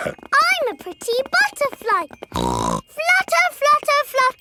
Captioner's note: snorts